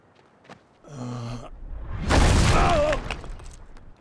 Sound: groaning

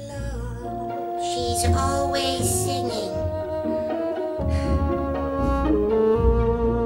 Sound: sigh

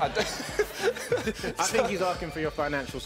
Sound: laughing

